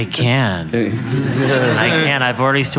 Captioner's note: laughter